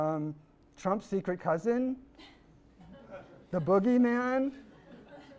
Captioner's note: audience laughs